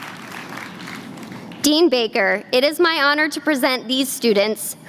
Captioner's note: applause